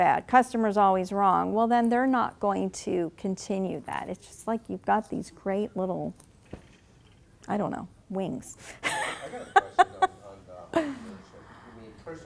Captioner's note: laughing